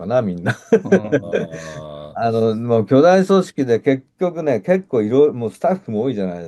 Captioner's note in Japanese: 笑い